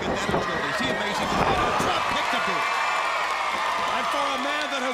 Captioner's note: crowd cheering